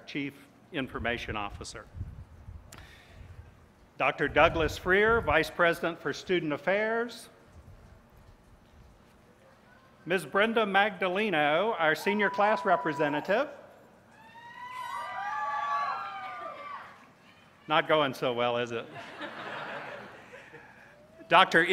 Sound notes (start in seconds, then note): 14.1 cheers; 18.8 laughter